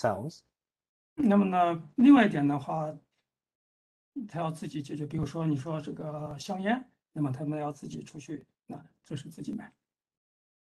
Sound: speaks in Mandarin

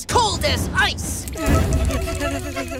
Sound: shivering

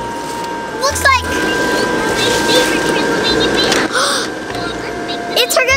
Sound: toy talking; gasp

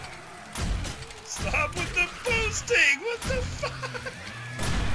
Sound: laughs

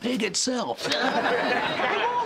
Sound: laughing

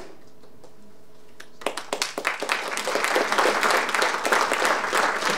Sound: audience applauding

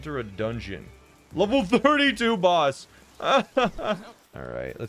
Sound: laughing

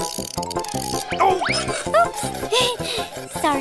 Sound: sawing

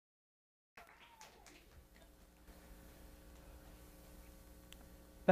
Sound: audience clapping

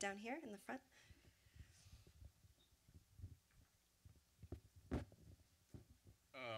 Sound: room noise, waiting for question from audience

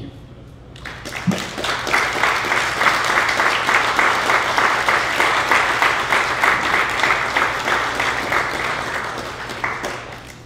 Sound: applause

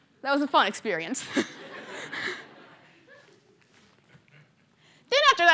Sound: laughter

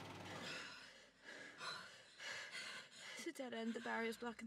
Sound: girls breathes heavy

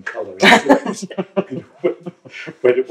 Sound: laughter

